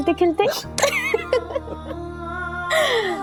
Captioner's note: laughing